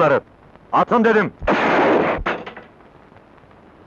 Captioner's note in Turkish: Tabanca sesi